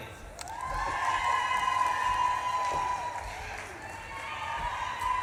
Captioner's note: audience claps and cheers